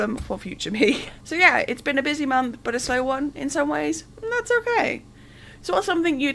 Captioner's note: laughing